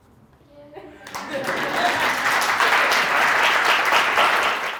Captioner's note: audience applauding